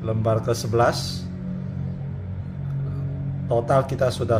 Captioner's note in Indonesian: suara mesin motor